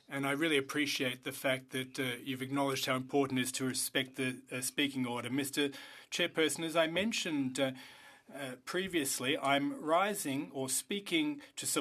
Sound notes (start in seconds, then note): 4.3 speaking French